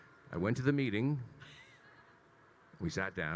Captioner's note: laughing